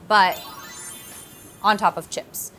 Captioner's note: magical sparkle